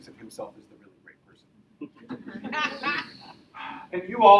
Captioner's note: audience laughs